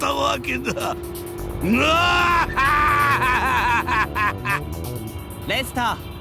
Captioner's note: triumphant evil laugh